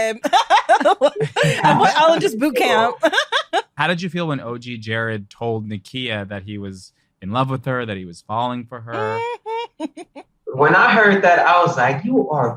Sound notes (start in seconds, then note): 3.7 all laughing; 7.3 laughs